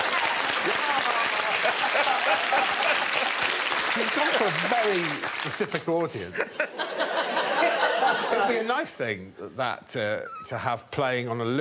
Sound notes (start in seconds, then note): 0.0 audience applauding; 0.5 audience laughing; 8.4 all laughing